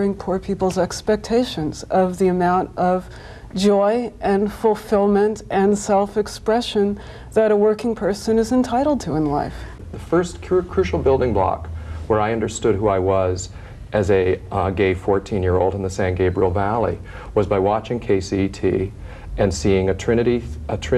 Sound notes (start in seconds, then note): none